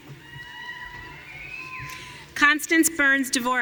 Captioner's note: audience cheering